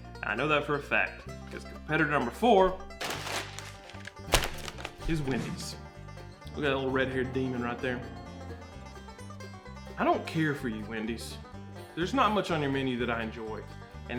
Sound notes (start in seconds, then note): 2.7 bag crinkling; 5.7 bright banjo music; 7.9 bright banjo music